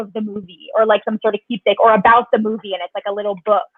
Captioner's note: speaks faintly